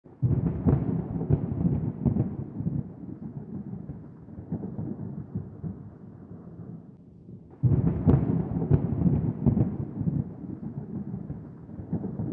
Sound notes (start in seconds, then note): 0.1 sound of thunder